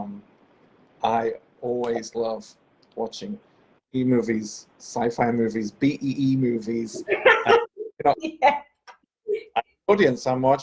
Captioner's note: laughing